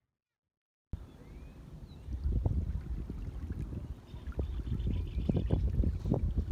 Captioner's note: birds chirping; water splashes